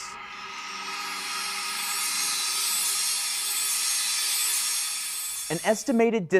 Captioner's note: sound Effects